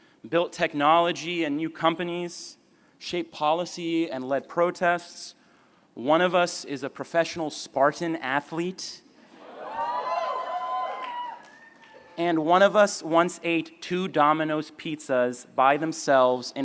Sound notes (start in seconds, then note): 9.4 cheering